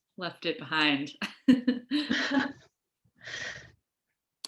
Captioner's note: laughing